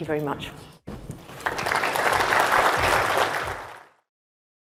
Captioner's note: applause